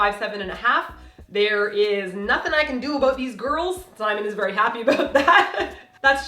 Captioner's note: laugh